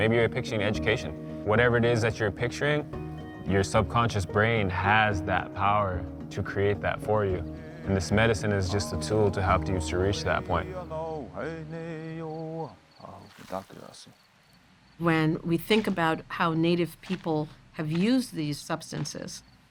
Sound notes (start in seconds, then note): 12.1 chanting in Native language